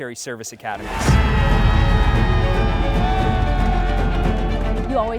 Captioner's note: group cheering